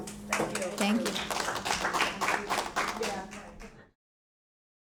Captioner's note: audience applauding